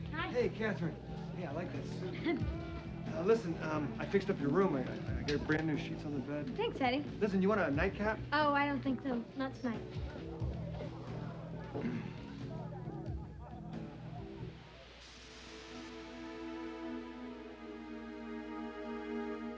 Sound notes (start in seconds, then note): 2.0 Katherine chuckles; 11.7 Eddie clears throat; 12.0 customers chattering; 14.6 steam hissing; 15.2 tense music